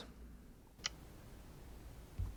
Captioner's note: tick sound